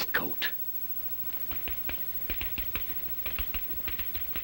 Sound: typing sounds

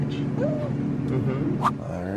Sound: coos

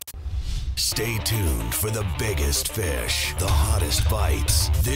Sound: voiceover

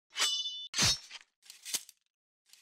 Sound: sword slashing

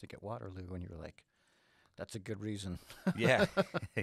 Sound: laughs

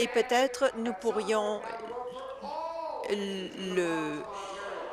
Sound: laughs

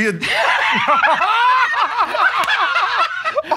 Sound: laughter

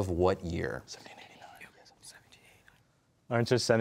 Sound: whispering

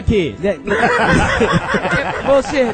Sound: all laugh

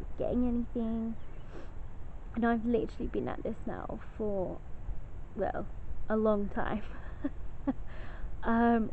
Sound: laughs

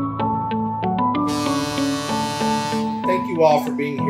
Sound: boat Horn

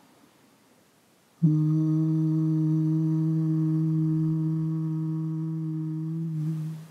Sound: humming sound

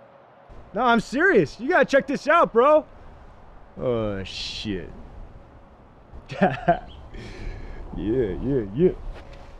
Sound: laughs

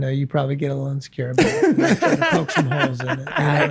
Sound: all laugh

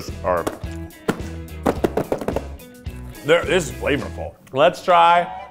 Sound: tapping plastic container

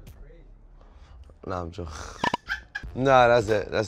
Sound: laughs

